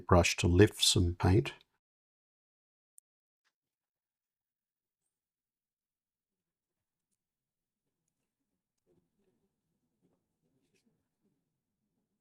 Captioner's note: silence